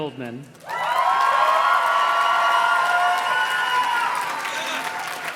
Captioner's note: audience cheers and claps